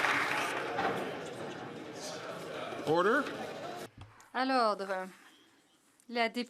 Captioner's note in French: applaudissements